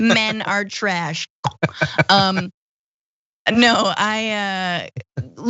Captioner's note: laugh